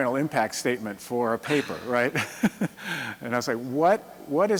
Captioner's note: chuckles